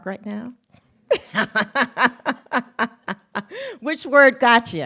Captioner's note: laughs